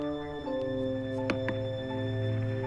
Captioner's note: knocks